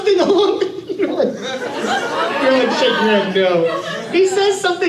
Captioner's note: laughs